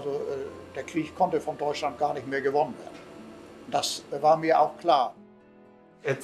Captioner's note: continues speaking in German